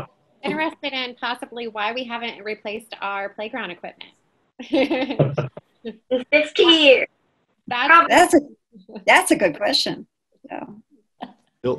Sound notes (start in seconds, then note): 4.6 laughing